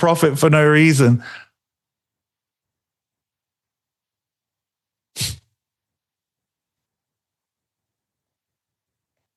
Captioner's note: silence